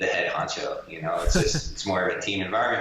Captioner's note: chuckles